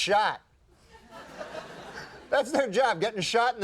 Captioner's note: audience laughing